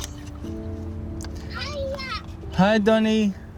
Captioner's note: child On Phone